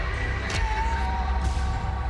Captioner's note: shouts